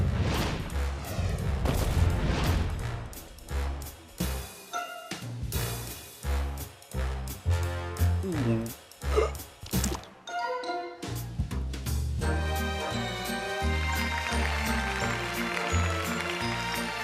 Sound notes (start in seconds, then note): 9.1 gasps; 9.1 gulps